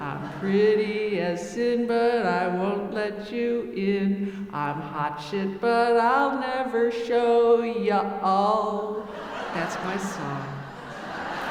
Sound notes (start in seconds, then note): 9.0 audience laughing